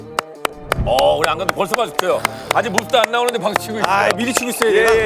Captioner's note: applauds